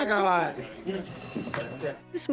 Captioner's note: bell rings; chuckling